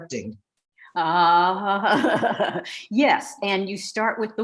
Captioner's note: laughing